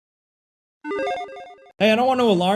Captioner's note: electronic tones